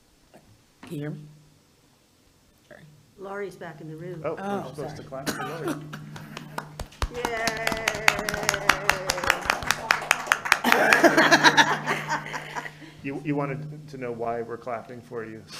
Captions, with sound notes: - Sure. Laurie's back in the room. Oh, I'm supposed to clap for Laurie. (board members clap) (board members laugh) - You wanted to know why we're clapping for you,